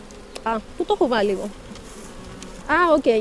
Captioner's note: speaking greek